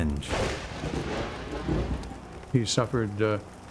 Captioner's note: thunder crashing